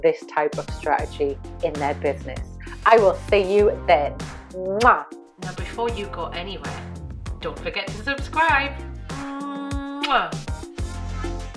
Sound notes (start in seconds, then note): 4.3 kissing sound; 9.3 MWAH sound